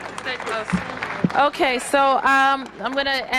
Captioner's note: applause